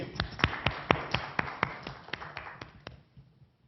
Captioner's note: applause